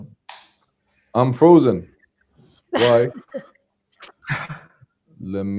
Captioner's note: laughter